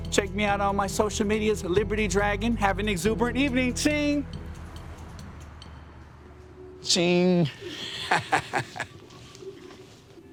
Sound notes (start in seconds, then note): 7.4 laughing